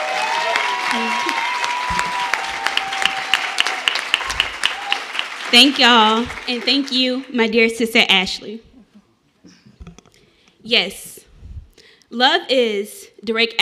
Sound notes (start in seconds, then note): 0.0 cheers and applause